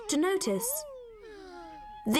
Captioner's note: sighing